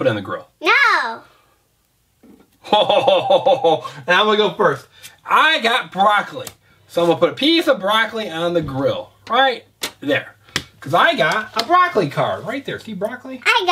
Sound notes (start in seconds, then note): 2.6 chuckles